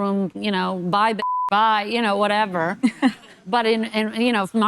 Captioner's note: beep